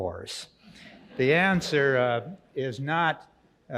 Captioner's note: audience laughs